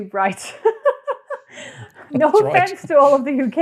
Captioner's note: laughs